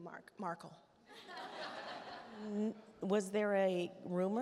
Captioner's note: attendees laugh